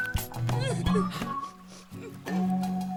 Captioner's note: cries and sniffles